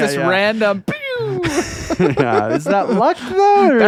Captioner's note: laughing